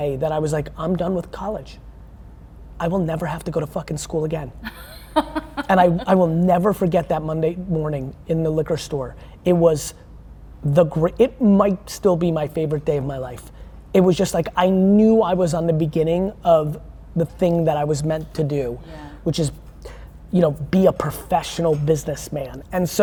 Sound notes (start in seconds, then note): 4.7 laughing